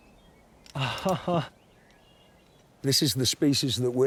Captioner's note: laughs